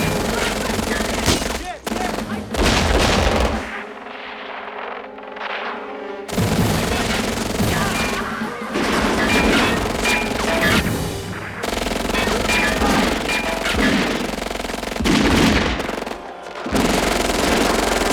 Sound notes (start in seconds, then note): 0.0 men Shouting; 3.3 radio: Gunshots